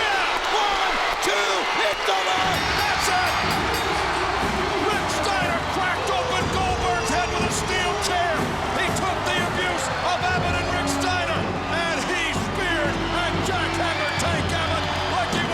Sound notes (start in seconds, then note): 2.3 bell rings